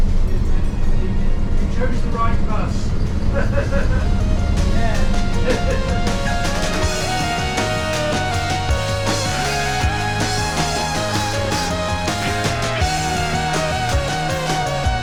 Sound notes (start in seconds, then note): 3.4 chuckles